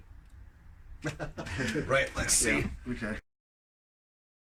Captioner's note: both laughing